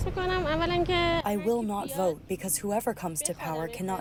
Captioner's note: through translator